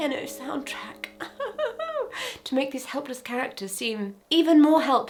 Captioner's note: mock-crying